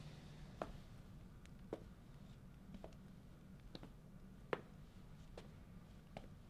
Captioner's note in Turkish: Ayak sesi